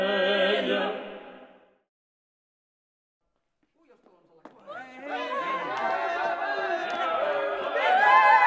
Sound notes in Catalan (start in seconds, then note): 4.4 Aclamacions